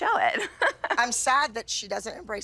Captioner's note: laughs